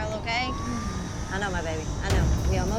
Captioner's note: moaning